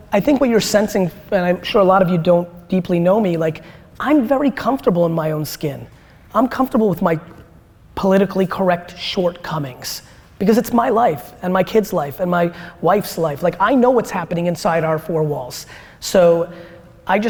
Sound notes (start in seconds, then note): none